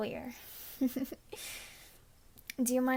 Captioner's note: giggles